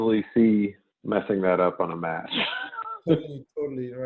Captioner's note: laughs